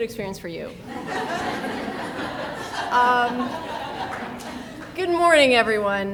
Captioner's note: people laughing